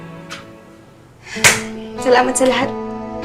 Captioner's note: claps